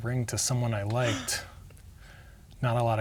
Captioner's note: gasps